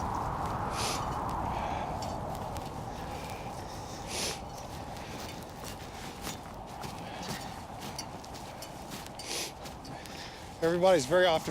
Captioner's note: wind blowing and sniffing